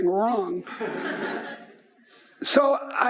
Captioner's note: laughing